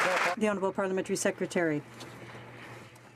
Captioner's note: some Applause